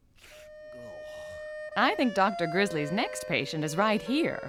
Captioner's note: gasping